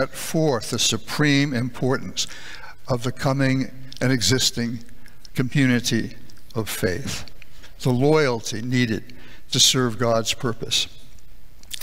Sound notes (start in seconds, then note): none